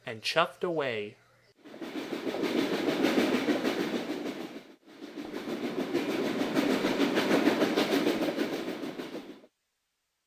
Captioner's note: chugging sounds